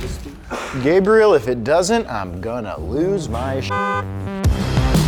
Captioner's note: beep; upbeat music